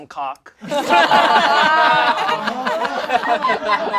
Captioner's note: all laugh